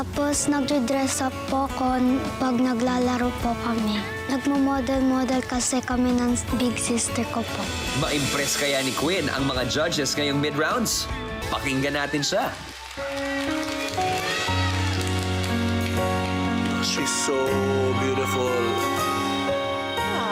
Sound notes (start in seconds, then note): 13.3 audience cheering